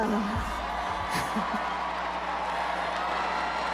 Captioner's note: crowd cheers